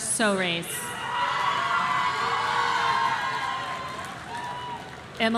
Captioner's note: audience cheering